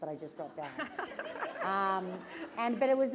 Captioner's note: laughter